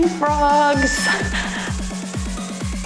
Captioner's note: timer beeps; cheerful music